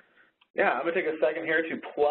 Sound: voiceover

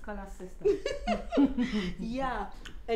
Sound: laughter

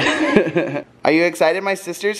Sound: giggling

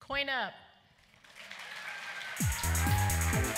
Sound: applause

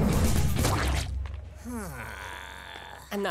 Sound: groaning

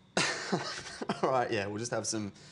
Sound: laughter

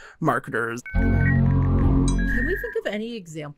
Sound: internet dialing up

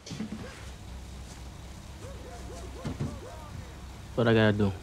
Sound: insects chirping; dogs barking

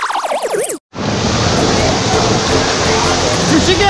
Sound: laser sounds

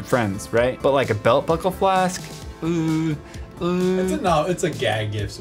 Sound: sounds of disgust

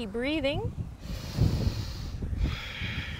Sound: inhales deeply

